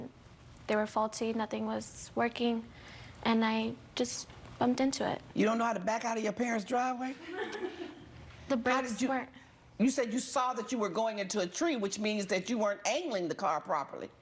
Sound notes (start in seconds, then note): 7.2 audience laughs